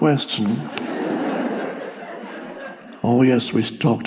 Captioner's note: audience laughs